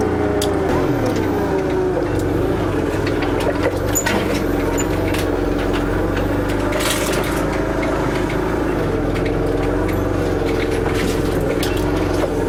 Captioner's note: sound of scraping and the forklift lifting the bale